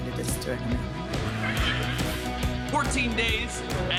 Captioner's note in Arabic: يضحك المراسلون